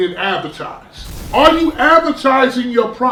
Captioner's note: crashing noise